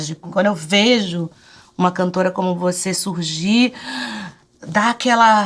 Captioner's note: inhales